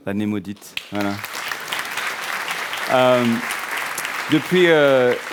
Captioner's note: applause